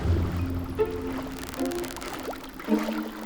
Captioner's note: dolphins clicking